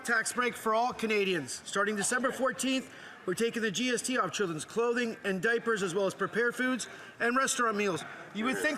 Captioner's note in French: voix de l'interprète